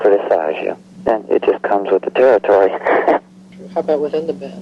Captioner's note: laughing